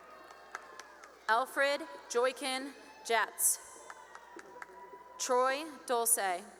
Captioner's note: cheering and applause